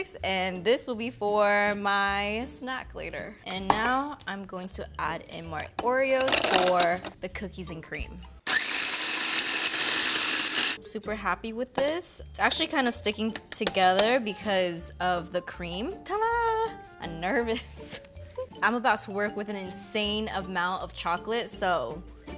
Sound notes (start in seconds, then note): 8.5 processor whirs; 17.5 laughs